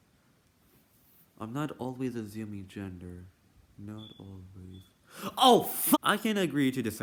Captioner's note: repeats quietly